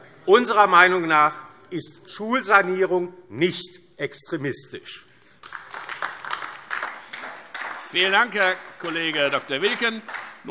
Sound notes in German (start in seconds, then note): 5.3 Beifall DIE LINKE